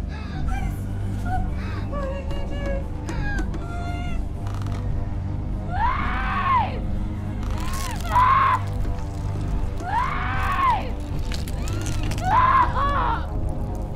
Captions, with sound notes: Please stop. What are you doing? Please! (screams) (bone crunching) (woman screaming) Oh please! Stop!